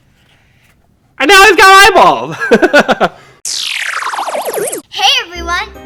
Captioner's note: laughing